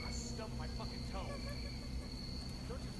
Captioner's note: wife laughing